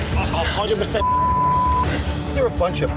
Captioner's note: beep